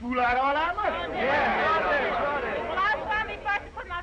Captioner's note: all chattering